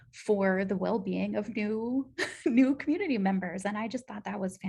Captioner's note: laughter